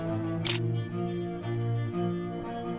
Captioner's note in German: Klicken